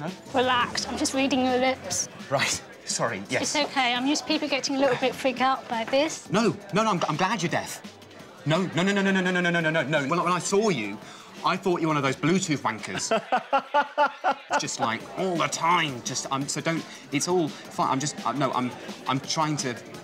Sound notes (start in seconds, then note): 13.0 laughs